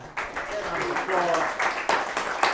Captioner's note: applause